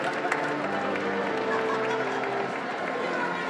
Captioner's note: applause